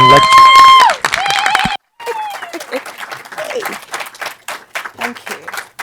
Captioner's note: audience cheering; audience clapping